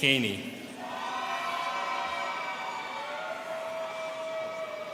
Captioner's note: students cheering